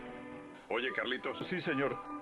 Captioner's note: speaking in foreign language